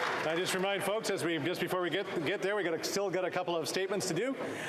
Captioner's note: applause